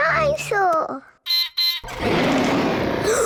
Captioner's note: beeps and roars; gasps and cries